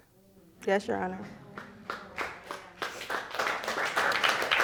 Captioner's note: audience applauding